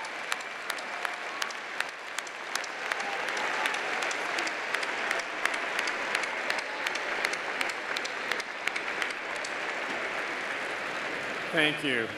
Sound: applause

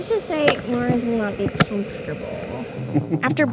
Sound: laughs

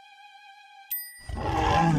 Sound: ping noise; waking grunt

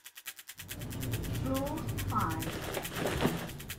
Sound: elevator sound: 'Floor 5'

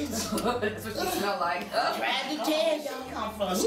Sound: all laughing

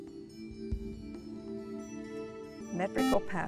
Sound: buzzer

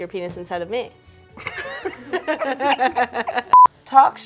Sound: both laugh

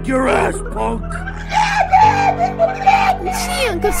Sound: Tommy screams

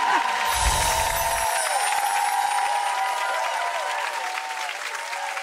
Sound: audience cheers and applauds

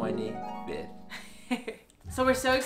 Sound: ethereal harp music; laughs

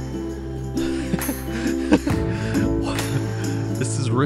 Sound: chuckles

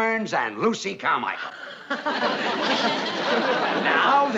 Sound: gasps, laughs

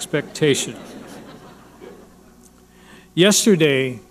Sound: audience laughing

